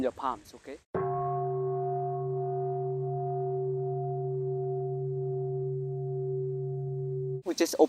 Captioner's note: sound of the bell